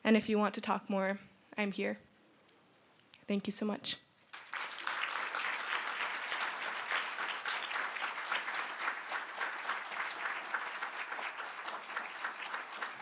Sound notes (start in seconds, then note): 4.3 audience applauding